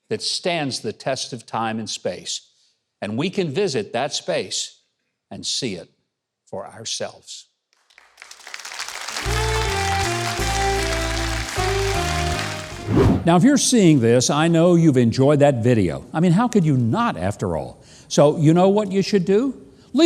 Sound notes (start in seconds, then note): 7.8 audience applauds; 9.0 upbeat jazz music